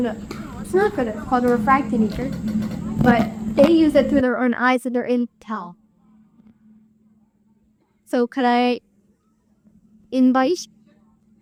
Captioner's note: bees